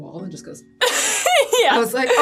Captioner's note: laughs